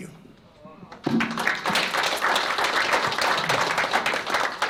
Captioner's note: applause